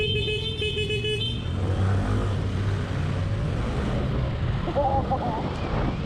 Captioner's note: laughing